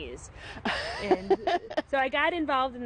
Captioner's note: laughing